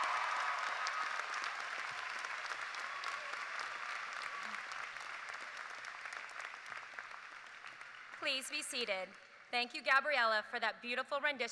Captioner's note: cheers and applause